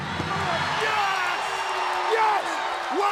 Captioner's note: crowd cheering